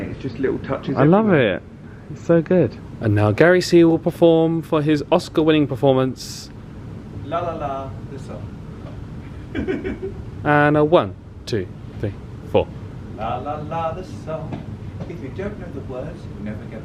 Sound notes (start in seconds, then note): 9.2 laughs